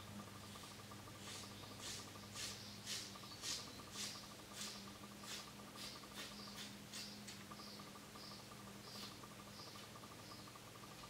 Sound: hair cutting sounds

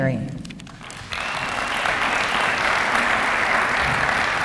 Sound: applause

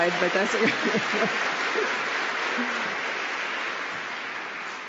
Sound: applause

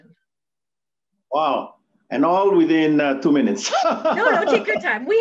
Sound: laughs

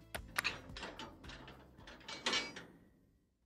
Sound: clanking

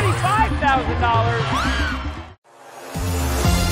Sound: screams; theme music

